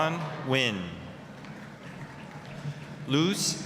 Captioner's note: applause